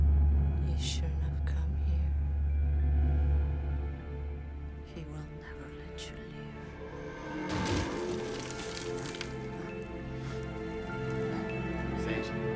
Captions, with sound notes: - You shouldn't of come here. He will never let you leave. (dramatic music) (ceiling rustling) - Sage.